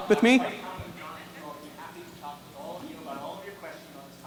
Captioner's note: voiceover